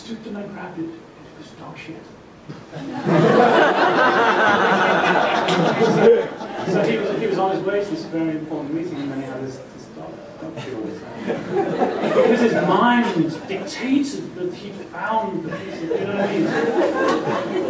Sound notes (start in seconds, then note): 2.7 laughter